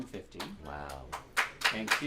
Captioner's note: applause